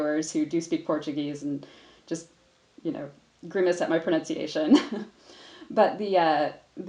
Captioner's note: chuckles